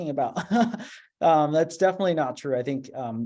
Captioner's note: laughter